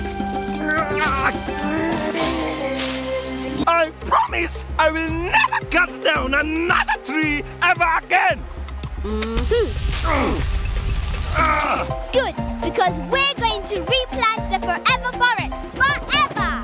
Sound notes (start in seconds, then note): 0.6 grunting; 3.6 yelling